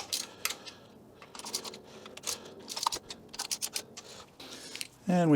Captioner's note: ratchet Noises